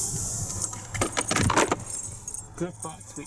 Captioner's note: opening glovebox